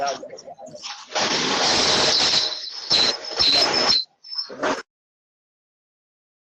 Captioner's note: background or connectivity noise